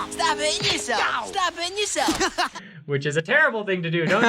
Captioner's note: laughing